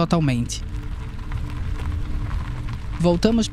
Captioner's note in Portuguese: som de carro, estrada de terra